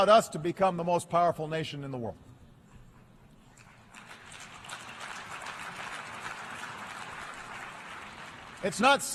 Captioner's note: applause